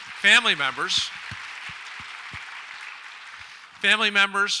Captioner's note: audience applauds